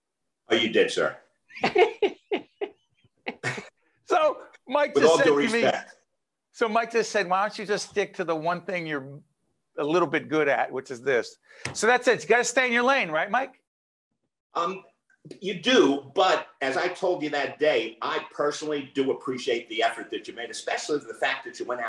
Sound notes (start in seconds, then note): 1.5 laughing